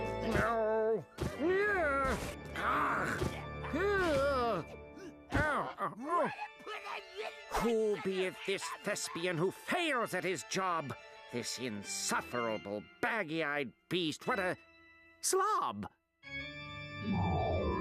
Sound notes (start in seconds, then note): 2.5 grunting